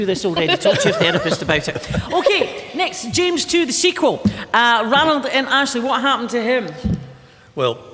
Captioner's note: laughter